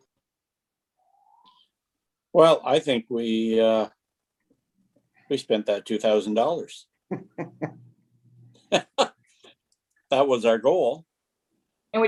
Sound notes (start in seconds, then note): 8.6 chuckling; 8.6 laughing